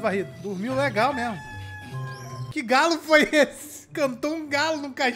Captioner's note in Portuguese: galo cantando